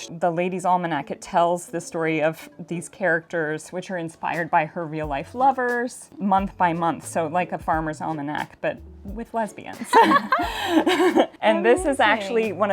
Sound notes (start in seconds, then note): 9.8 both laugh